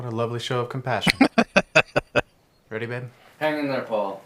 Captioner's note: laughing